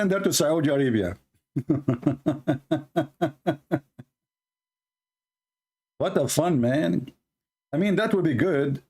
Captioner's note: Ketawa